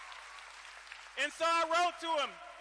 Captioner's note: cheering